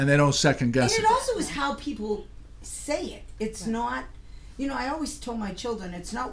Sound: voiceover

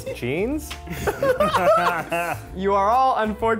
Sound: laughter

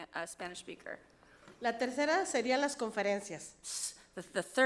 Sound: speaks foreign language

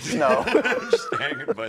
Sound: laughs

